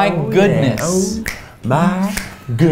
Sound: snaps

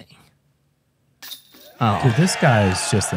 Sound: applause

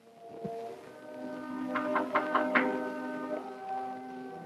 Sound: knock

